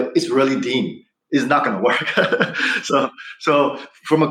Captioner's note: laughs